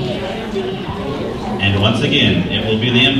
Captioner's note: crowd noise